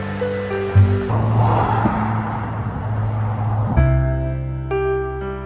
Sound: car whoosh; happy piano music continues

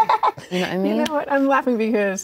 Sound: laughing

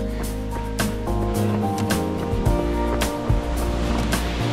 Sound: water splashing

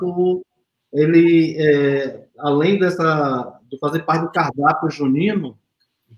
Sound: speaks portuguese

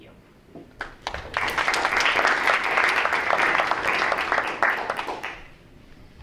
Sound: audience members clapping

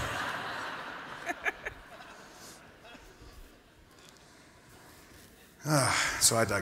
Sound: laughter

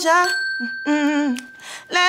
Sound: bell dings; hums melodically

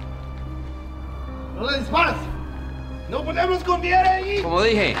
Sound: speaking in Spanish

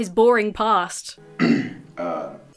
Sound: Special Forces Hat clears throat

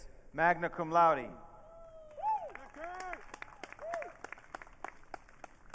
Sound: audience cheering

